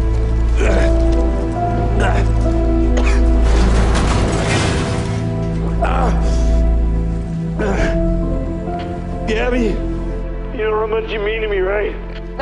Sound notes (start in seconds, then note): 0.5 coughs; 0.5 grunting; 3.7 crashing